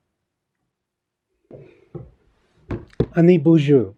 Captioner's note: foreign Language Spoken